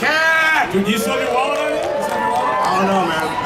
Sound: audience cheering

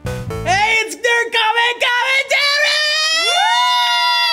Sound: yelling

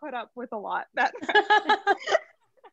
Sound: laughs

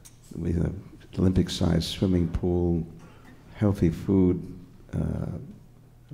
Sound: murmurs

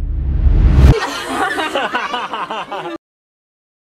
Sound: laughs

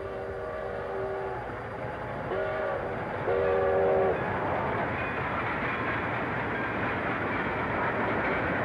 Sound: train whistle blows

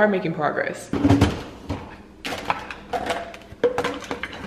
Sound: clatter

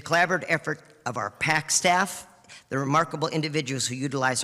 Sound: none

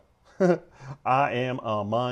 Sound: laughing

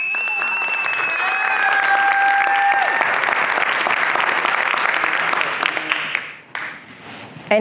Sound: applause and cheers

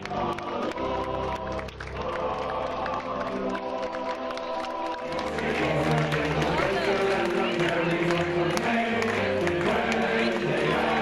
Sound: cheering

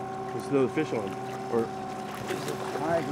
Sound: trolling motor humming

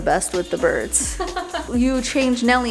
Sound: laughs

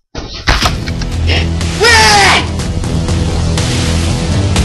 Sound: gasp

